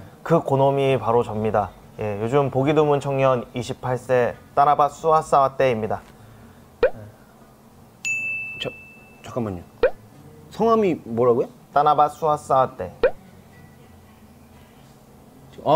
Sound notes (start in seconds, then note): 6.2 gasp